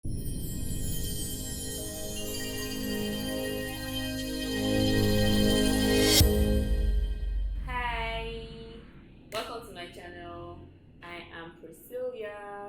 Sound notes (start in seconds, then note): 0.1 dramatic sound for k's time intro